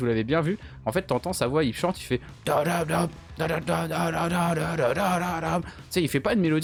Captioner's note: bad imitation